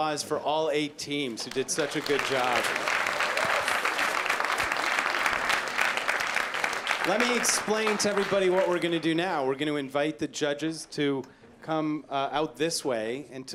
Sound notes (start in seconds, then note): 1.4 applause